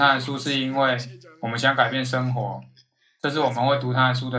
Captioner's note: laughs